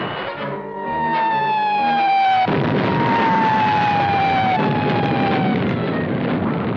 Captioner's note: gun firing; whining; explosions